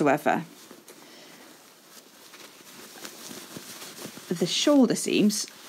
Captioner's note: fabric rustling